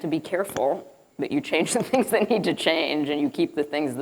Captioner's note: chuckling